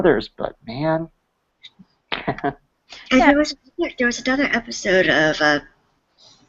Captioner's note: laughs